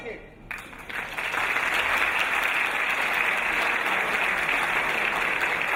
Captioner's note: audience applauding